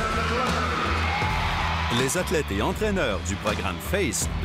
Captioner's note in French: acclamations